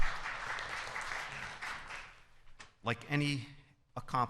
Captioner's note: applause